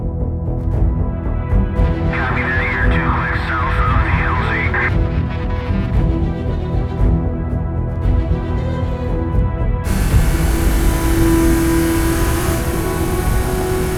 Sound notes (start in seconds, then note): 0.7 action music; 9.8 engine revving